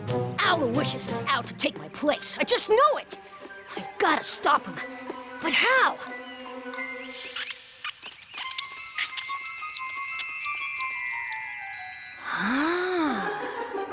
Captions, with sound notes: Aloysius is out to take my place. I just know it! I've got to stop him. But how? [ Mouse squeaking ] Ahhhhh.